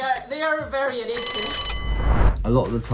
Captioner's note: bell rings